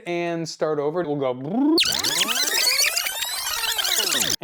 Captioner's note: drill whirring